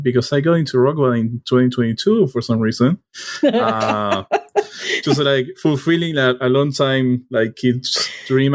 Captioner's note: laughter